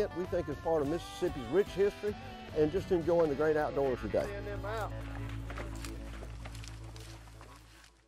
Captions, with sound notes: we think is part of Mississippi's rich history. And just enjoying the great outdoors today. (horse hooves scuffling)